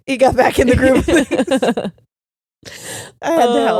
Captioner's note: laughing